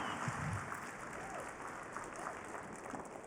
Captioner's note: cheering, applause